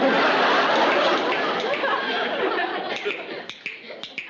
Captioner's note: clicking